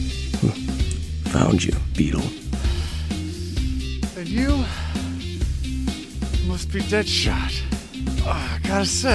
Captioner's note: gritting teeth